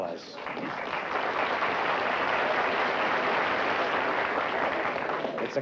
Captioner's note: applause